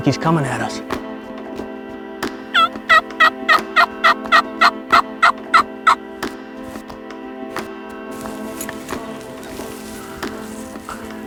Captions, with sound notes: It looks like he's coming at us. (turkey call) (suspenseful instrumental music)